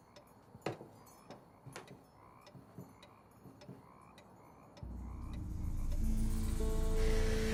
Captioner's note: clock ticking; toad croaking; soft orchestral music